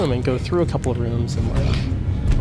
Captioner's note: growling